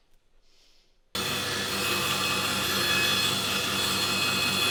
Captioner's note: saw whirring